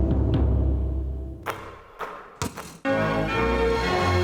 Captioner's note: light music; basketballs thumping; dramatic music